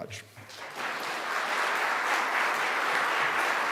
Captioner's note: applause